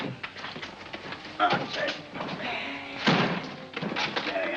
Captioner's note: chest bangs down; grunting